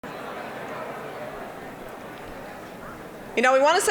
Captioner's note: general chatter